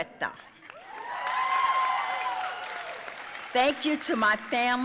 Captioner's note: audience cheering and applauding